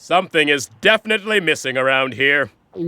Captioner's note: gulps